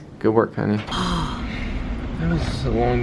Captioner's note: sighs